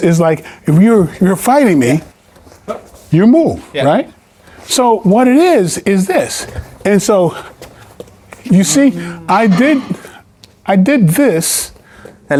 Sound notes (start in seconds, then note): 7.5 footsteps tapping